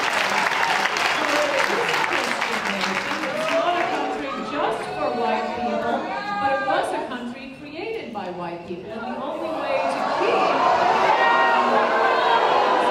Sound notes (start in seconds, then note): 0.0 applause; 10.1 booing